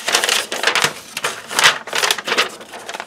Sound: paper crinkles

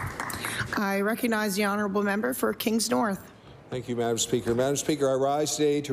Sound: applause

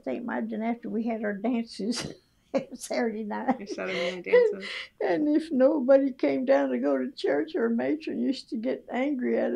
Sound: laughs

